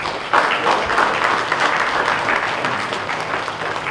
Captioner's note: audience applauds